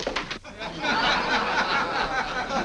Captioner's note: laughing